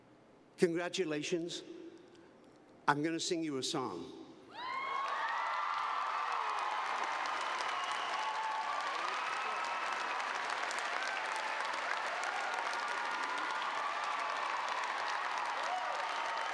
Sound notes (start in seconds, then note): 4.5 cheers and applause